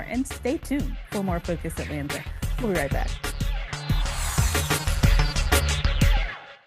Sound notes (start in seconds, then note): 3.7 air whooshing; 3.9 intriguing upbeat music